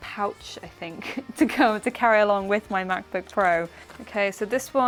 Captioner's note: laughs